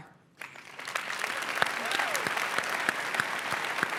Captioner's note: applause